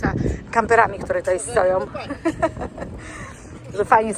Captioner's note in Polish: śmiech